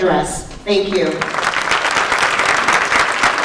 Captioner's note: applause